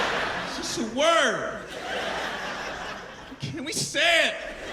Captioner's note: laughter